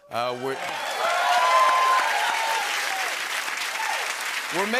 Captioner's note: cheers and applause